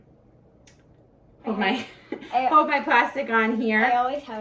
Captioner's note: chuckles